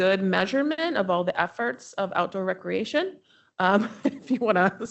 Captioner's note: chuckles